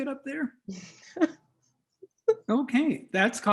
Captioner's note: laughs